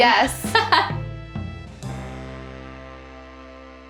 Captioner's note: laughing